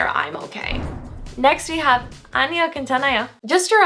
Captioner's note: foreign language